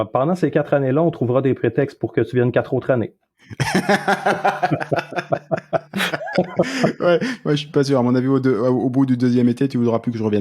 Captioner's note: laughs